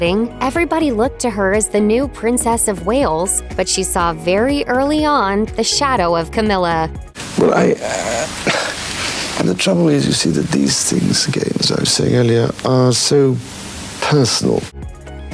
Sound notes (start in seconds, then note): 7.4 sighs